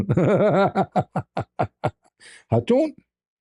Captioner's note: ketawa